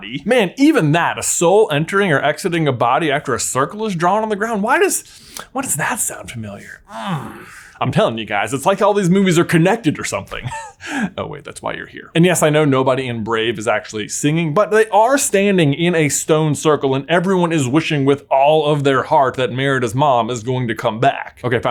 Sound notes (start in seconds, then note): 6.8 grunts